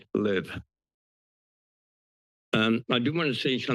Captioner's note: pause